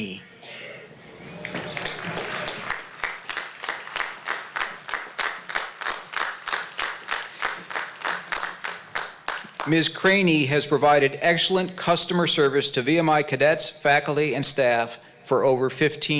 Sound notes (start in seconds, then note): 1.4 applause